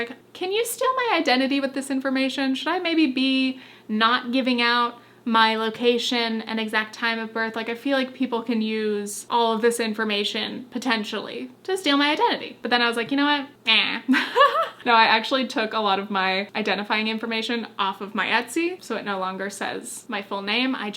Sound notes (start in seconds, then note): 14.0 laughs